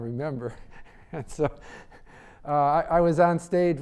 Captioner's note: laughing